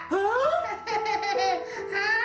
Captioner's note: laughs